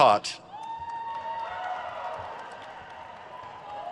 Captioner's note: crowd cheers